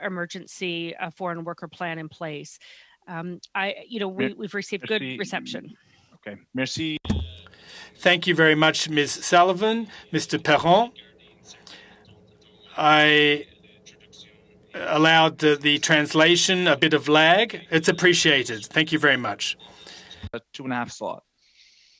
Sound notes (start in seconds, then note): 11.2 speaking French